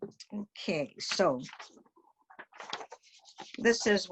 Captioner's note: paper wobbles